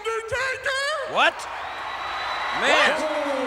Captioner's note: applause